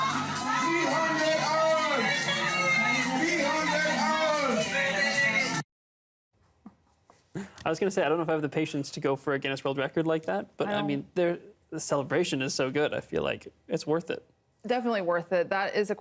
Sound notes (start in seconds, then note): 0.0 cheering